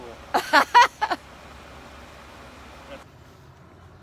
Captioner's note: laughs